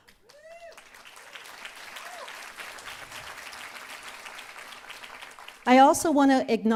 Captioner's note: applause